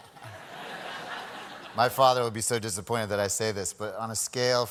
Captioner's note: laughter